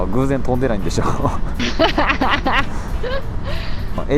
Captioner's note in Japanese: 笑い